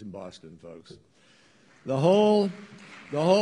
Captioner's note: applause